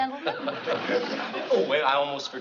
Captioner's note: laughing